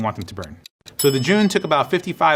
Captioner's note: timing ringing